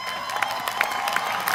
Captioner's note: applause